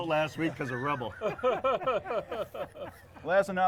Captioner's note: group laughs